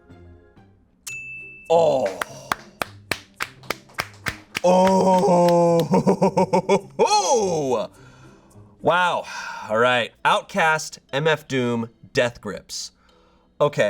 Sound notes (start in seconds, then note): 1.1 bell dings; 1.8 audience applauding; 4.5 chuckles